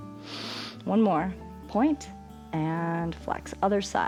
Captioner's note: inhales